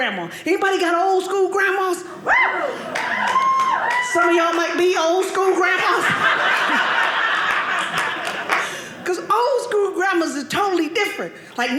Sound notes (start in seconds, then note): 2.8 audience clapping; 5.5 audience laughing